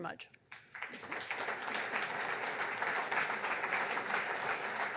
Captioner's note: audience applauds